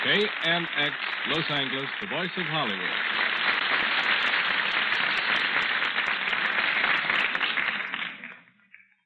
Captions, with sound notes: AMX Los Angeles, the voice of Hollywood. (applause)